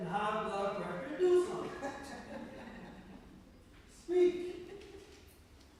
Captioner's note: laughter